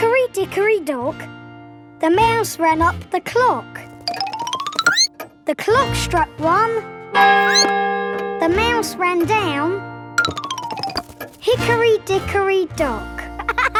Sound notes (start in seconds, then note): 7.4 squeaks; 7.4 clock chimes